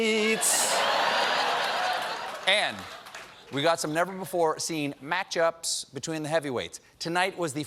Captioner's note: laughter